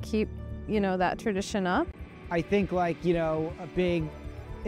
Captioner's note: none